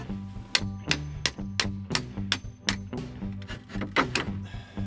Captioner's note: hammer tapping